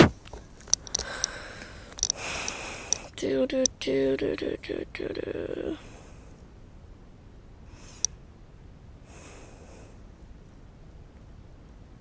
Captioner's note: breaths